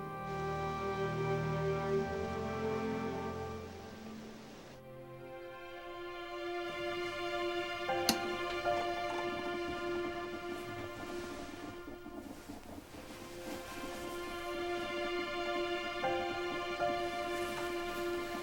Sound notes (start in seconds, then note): 0.0 trees rustling; 8.0 switch clicking; 8.1 coffee percolating; 10.2 gentle music